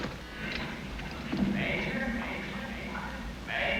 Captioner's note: echoes